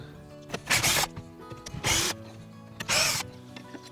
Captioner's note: drilling